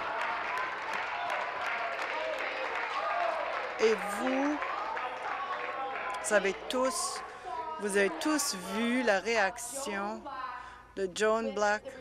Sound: applause

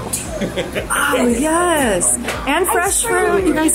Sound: gasps

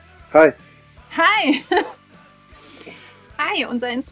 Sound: laughs

